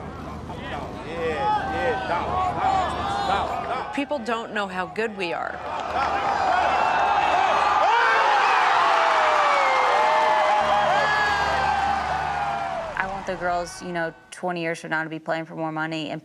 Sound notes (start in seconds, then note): 1.8 crowd chattering; 5.9 crowd cheering